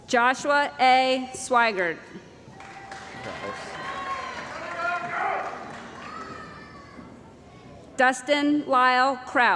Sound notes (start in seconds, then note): 2.5 cheering & Applause